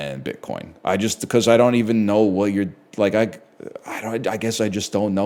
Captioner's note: stammers